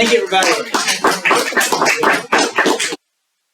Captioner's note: hands clapping